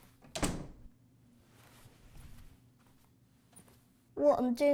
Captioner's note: door clicking